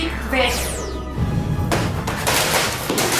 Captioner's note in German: Gepolter